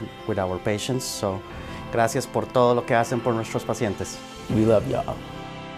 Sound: man speaks thank you message in Spanish

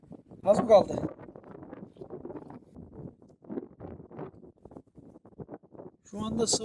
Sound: wind noise rustling; wind sound, rustle

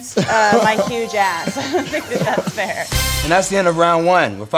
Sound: laugh

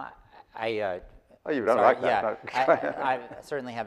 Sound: laughing

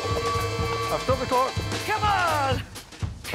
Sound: bell rings

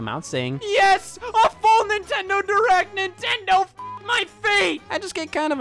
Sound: beep

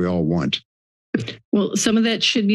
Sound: mic thumps

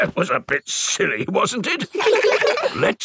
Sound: in teddy's voice; in normal voice; kids laugh

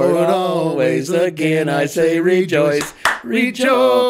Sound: hands clap

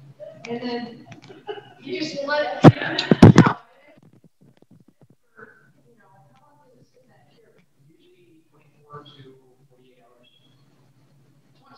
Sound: audio cuts out

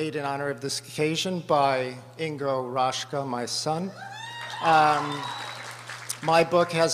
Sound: applause

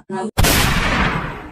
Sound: boom!

